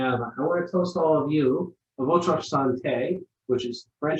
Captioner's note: speaking in foreign language